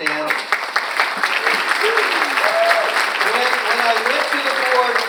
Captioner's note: audience cheers and applauds